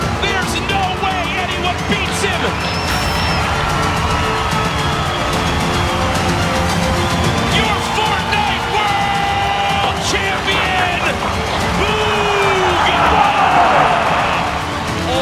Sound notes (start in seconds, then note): 2.6 crowd cheering